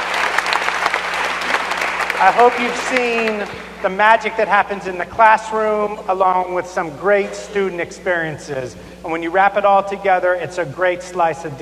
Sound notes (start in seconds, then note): 0.0 applause